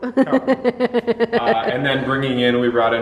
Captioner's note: laughs